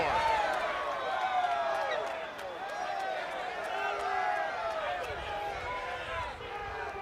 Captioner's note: crowd chatter